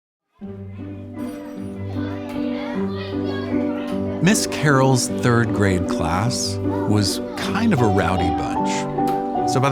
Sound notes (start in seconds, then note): 0.4 gentle upbeat music; 0.4 students chattering